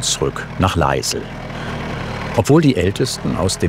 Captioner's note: roaring